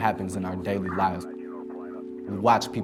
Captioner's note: police radio scanner